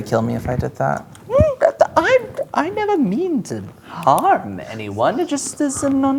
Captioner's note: sputters